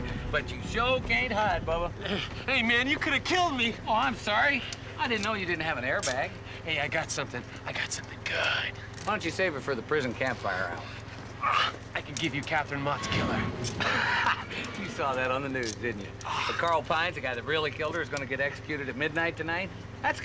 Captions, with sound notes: - Hey, man, you could have killed me. - Oh, I'm sorry, I didn't know you didn't have an airbag. - Hey, I got something. I got something good. - Why don't you save it for the prison campfire hour? - (grunts) I can give you Catherine Mott's killer. - (laughs) You saw that on the news, didn't you? Carl Pines, the guy that really killed her, is gonna get executed at midnight tonight.